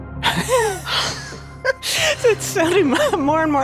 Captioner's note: laughing